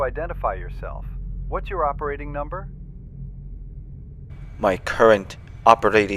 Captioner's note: imperial voice